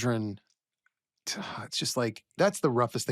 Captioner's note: sighs